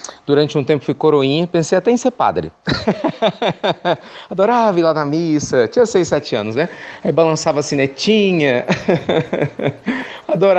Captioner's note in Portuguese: Risos